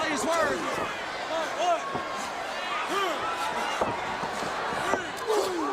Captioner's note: crowd cheering